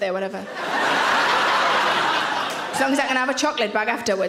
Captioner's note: audience laughing